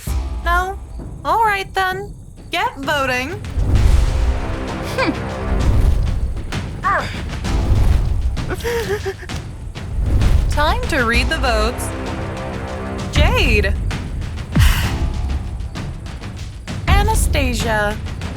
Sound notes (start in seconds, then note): 6.8 grumbles; 8.5 sobs